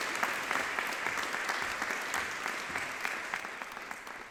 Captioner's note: audience clapping